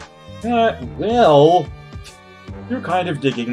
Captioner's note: scoffs